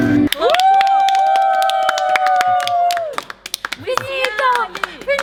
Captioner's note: clapping